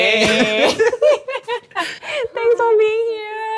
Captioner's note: both laugh